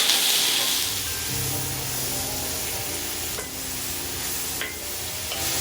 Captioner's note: sizzle and stir, sizzle and toss